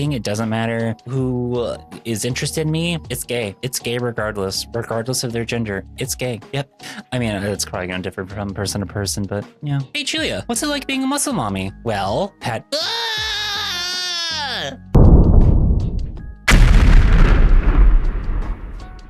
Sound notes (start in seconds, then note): 12.8 screams; 16.4 boom; 16.4 explosion